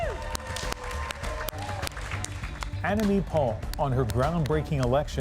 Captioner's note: applause